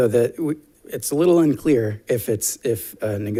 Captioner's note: none